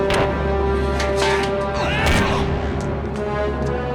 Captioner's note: grunting